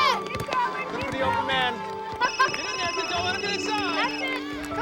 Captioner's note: cell phone ringing